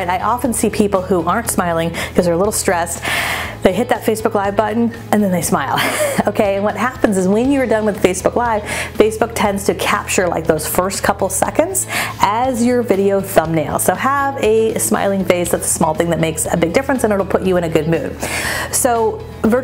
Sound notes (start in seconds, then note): 5.7 laughing